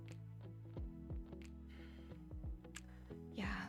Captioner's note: exhales